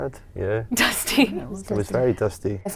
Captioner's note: laughs